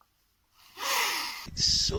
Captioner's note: sniff